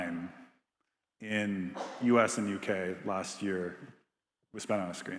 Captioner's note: attendee coughing